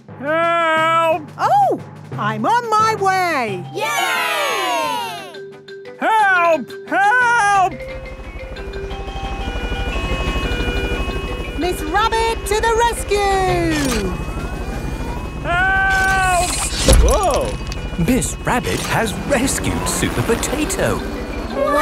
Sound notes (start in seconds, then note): 3.8 crowd cheering; 8.1 emergency siren sounding